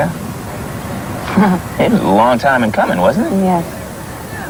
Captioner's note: laughing